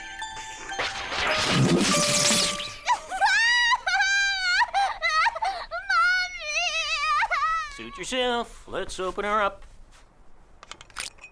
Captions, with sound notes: (zapping) - (crying) mummy! - Suit yourself. Let's open her up.